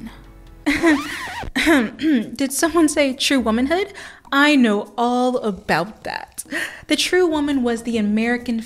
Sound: nervous laughter

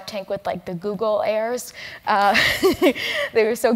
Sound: laugh

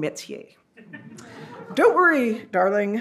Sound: audience laughs

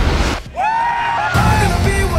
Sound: cheering

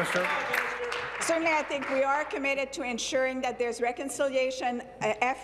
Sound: applause

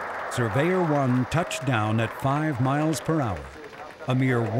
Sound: cheering; voiceover

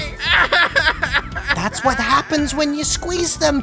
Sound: sobs

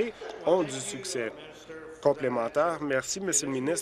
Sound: applause

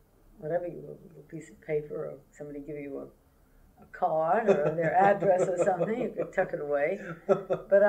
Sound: laughter

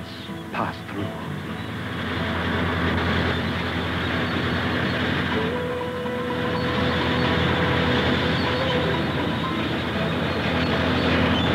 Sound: heavy equipment movement and engines grinding

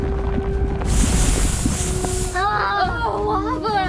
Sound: lava spewing

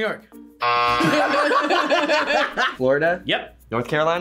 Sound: buzzer rings; both laugh

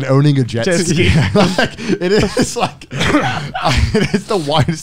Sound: all laughing

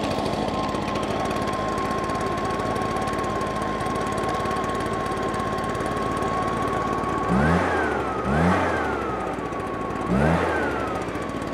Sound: blower running

